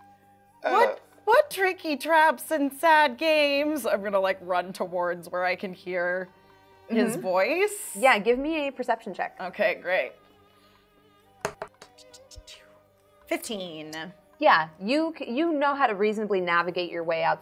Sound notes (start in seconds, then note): 0.9 groans; 11.4 dice thudding